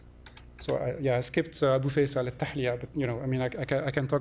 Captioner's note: non-english